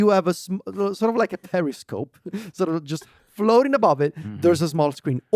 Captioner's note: laughs